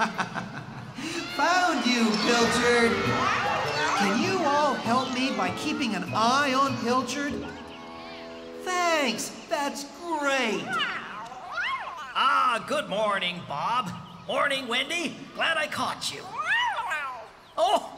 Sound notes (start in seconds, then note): 0.0 chuckling; 7.5 audience Agrees